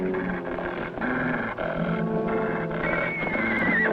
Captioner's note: growling; whinnying